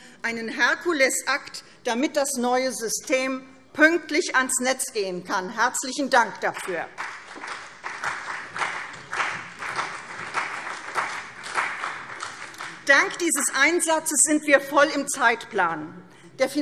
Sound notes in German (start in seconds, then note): 6.9 Beifall CDU und BÜNDNIS 90/DIE GRÜNEN